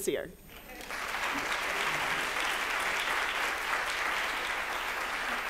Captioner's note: applause